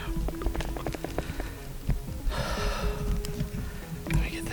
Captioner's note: breathing hard